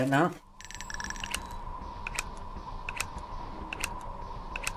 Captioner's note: gun clicking